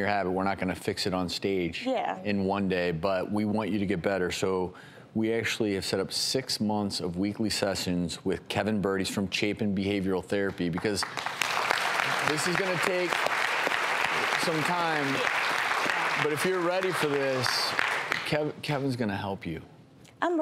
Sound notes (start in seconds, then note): 11.1 audience applauding